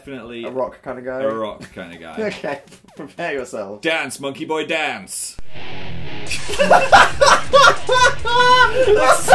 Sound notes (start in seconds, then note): 6.4 laughing